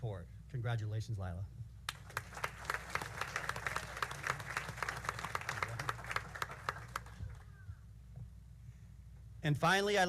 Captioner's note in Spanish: aplausos